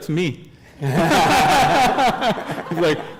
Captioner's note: laughter